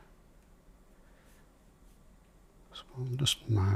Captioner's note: silence